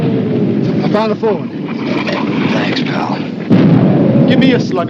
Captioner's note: artillery whizzing, explodes